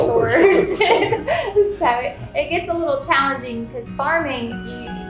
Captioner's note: laughing